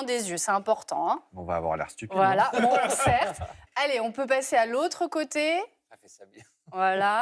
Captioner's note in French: rires